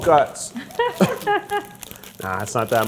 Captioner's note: laughing